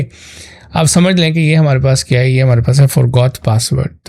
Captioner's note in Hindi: नाक से की जाने वाली आवाज़